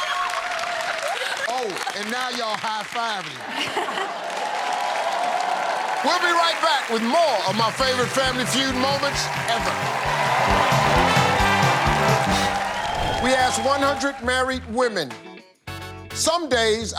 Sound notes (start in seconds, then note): 4.5 cheers and applause